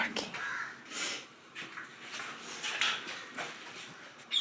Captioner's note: birds chirping